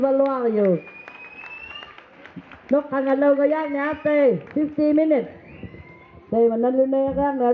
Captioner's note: applause